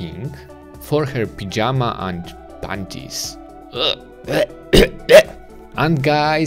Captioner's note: gagging